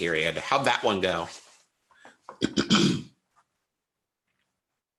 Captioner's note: clears throat